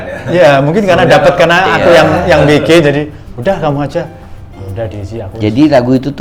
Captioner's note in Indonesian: tertawa